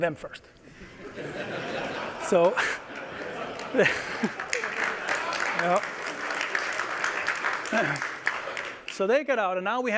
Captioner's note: applause